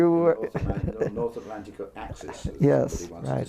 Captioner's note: laugh